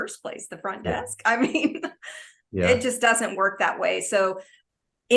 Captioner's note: laughs